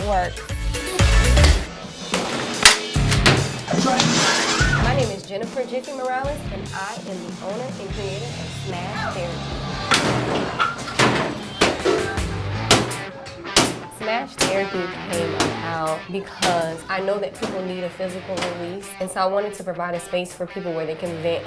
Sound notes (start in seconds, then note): 8.5 banging